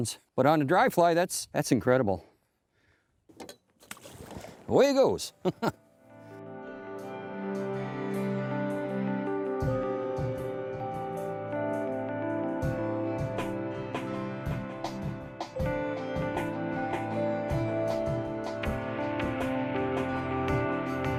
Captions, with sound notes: but on a dry fly, that's incredible. Away he goes (laughs). (tranquil music)